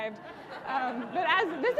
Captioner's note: audience laughing